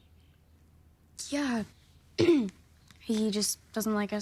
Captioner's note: clears throat